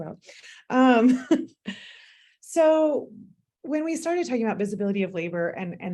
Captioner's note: laughter